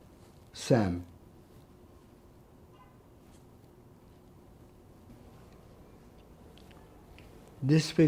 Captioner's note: pauses 6 seconds